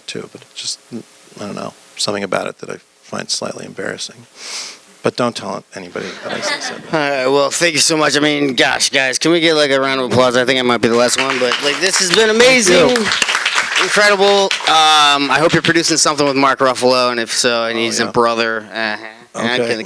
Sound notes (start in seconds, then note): 6.0 laughter; 12.5 applause